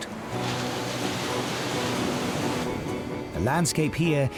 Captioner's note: waves crashing